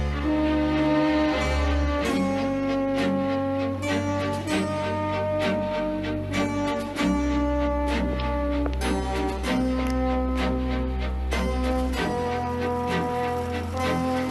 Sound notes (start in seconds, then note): none